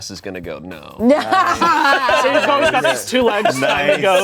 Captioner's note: everyone laughs